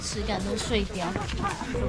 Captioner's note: laughing so hard